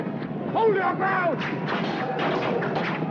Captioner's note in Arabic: سهام تنطلق